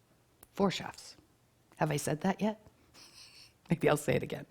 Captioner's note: chuckles